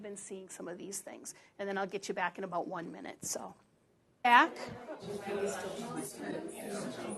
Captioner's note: audience discussing